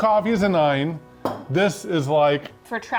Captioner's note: bottle clinking